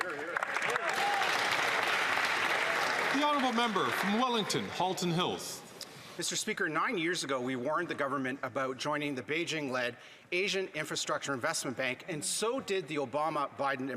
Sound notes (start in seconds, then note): 4.3 some Applause